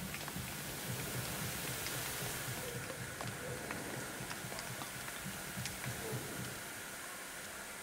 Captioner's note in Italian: Applauso